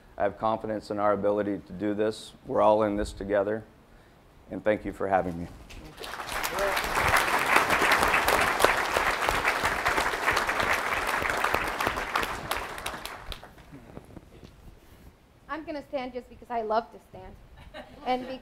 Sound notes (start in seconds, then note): 5.8 audience applauding